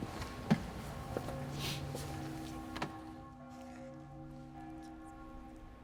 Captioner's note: church bell tolling